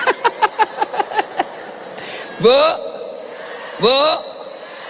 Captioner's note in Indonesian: tertawa